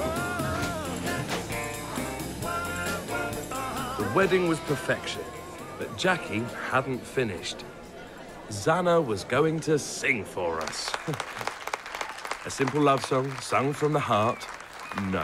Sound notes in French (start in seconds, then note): 10.5 applaudissements